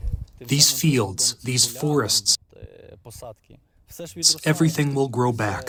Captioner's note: through translator